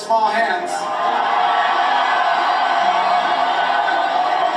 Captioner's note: laughter, cheering